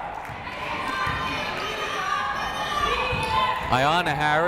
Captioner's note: yelling